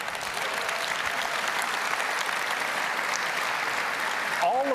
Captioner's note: applause